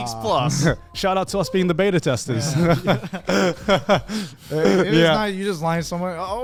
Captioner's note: laughs